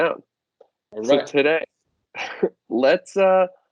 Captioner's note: laughs